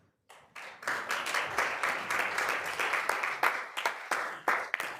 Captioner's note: attendees applauding